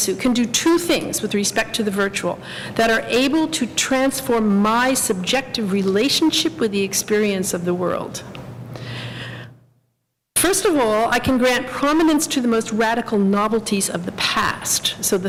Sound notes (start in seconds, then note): none